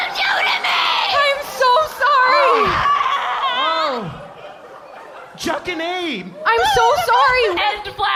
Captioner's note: screaming